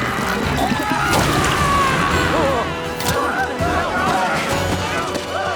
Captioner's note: soldier sputtering; soldiers screaming